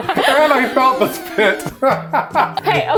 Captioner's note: laughs